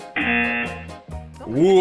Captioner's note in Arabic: طنين الجرس